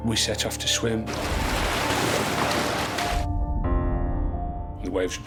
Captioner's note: waves crash